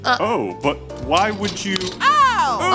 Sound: soundbite of slaps

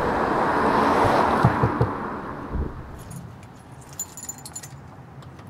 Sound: door knocking

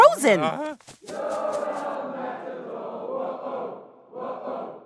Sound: crowd chants

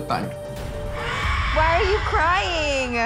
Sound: baby cries

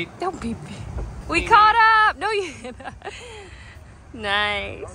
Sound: laughs

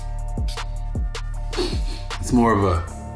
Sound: chill music; sniffing

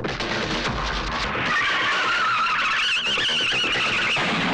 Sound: tires Screeching

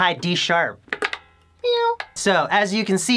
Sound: meows

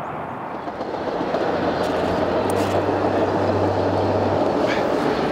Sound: train wheels clattering

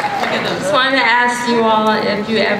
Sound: voiceover

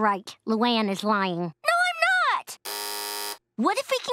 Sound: buzzing

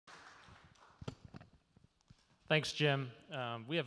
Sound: audience claps

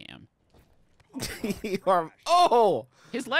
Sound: laughing

